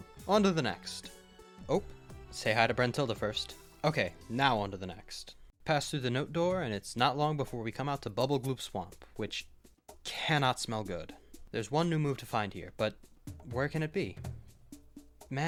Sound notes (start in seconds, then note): none